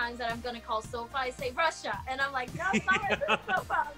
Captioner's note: laughs